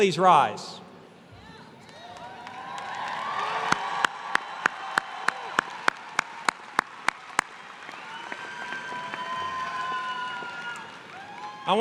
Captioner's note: applause